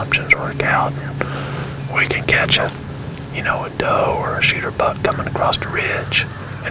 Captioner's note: whispering